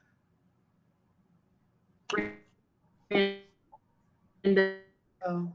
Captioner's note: audio distorting